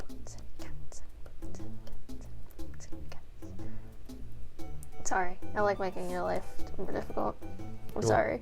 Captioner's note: continues beatboxing